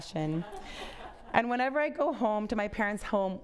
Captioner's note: audience laughs